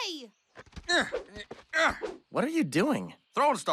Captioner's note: grunts; grunting